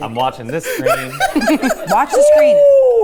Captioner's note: everyone laughing